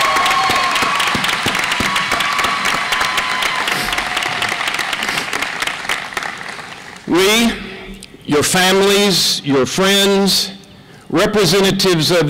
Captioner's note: applause